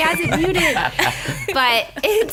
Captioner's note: laughter